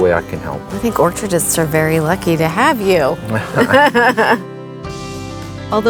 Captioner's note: laughing